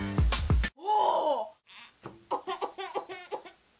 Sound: coughing

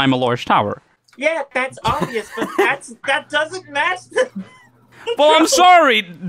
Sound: laughs

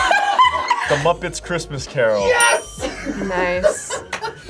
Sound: laughs; laughs

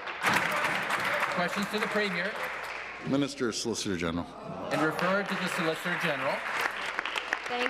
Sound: applause

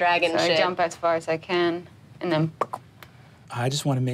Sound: pops

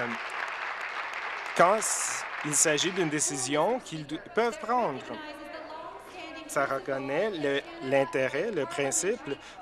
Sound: applause

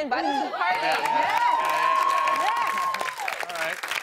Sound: cheers and applause

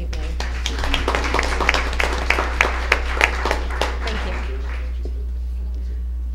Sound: applause

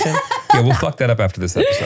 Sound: laughing

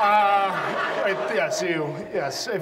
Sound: audience laughs

